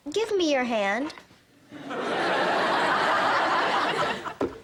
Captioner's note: audience laughter